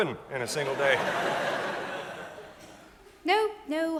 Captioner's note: audience laughs